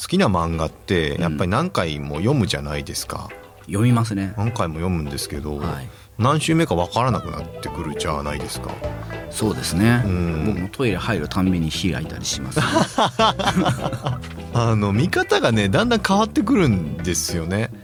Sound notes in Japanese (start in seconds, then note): 11.2 笑い